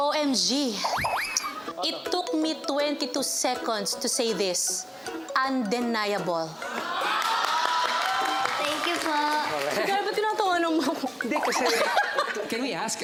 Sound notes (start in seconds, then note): 7.2 audience reacts in awe; 11.2 laughs